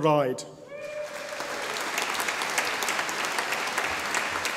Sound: audience applauding

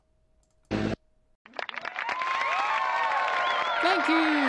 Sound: applause

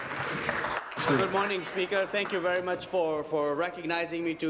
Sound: applause

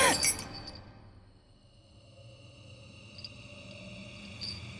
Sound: chain rattling; suspenseful music

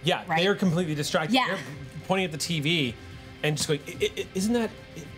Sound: stutters

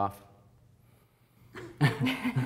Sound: laughter

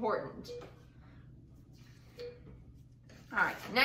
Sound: beeping

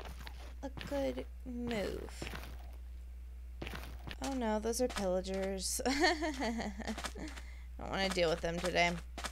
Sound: laughs nervously

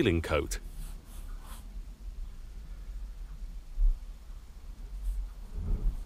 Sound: paintbrush strokes rasping

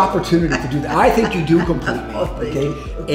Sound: laughs

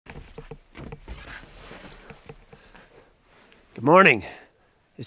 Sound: equipment rustling

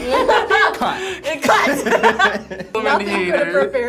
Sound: group laughs; laughs

